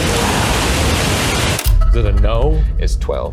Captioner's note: faint Voice